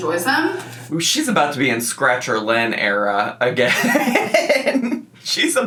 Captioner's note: laughs